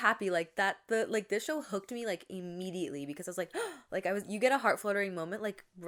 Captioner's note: gasps